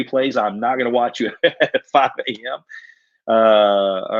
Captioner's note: laughs